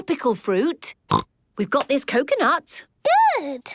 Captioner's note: snorts